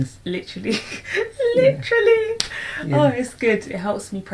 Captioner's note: laughs